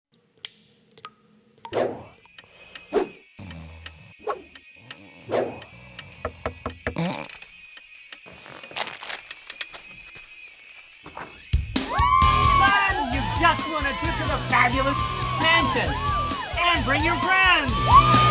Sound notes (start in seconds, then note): 0.6 tap dripping; 3.3 snoring; 6.2 door knocking